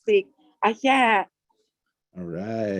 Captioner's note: native language spoken